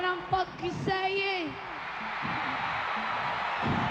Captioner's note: cheering